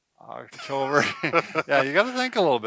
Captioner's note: laughs